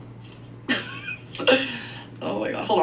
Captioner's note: laughs